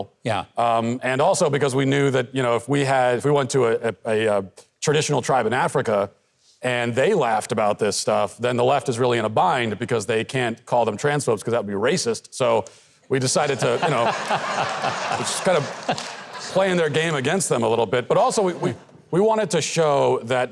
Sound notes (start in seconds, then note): 13.3 audience laughs; 13.4 Mike laughs